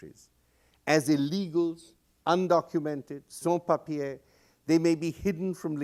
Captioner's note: non-english